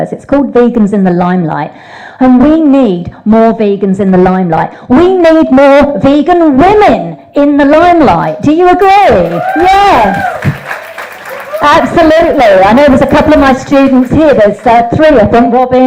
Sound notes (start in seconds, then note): 4.9 yells; 9.2 audience cheers